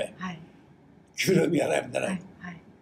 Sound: foreign language

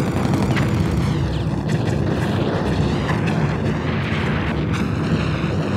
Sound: explosions booming

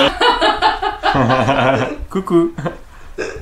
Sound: laughes

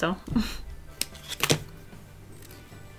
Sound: sticker peels off

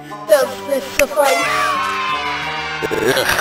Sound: snaps, party horn with children cheering

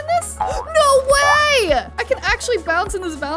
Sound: spring bouncing noise; gasping

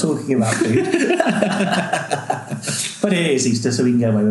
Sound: laughing

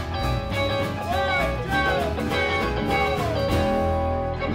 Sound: shouting

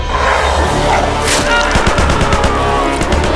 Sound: growls; screams; gunshots

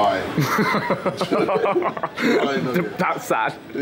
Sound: both laughing

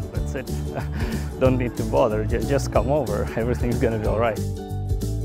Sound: laugh

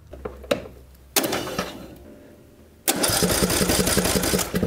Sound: engine starting

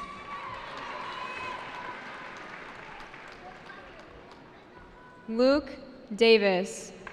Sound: cheering

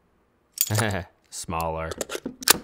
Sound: chuckles

